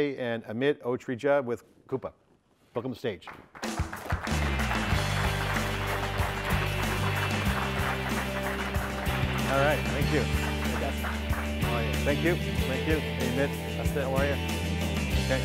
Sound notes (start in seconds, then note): 3.3 audience applauds; 4.0 upbeat music